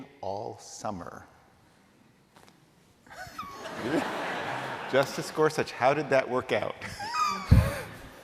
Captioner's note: laughter